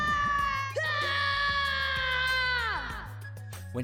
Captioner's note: screaming, take one; screaming, take two